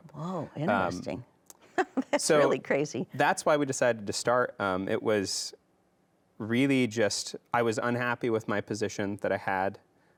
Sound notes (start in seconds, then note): 2.2 chuckles